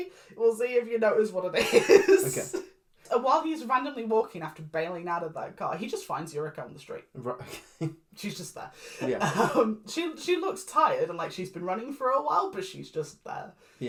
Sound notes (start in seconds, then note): 1.6 laughs; 9.0 exhausted laugh